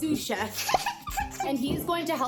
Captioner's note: giggles